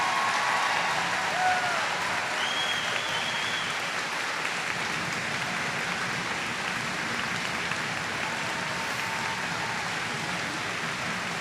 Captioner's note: applause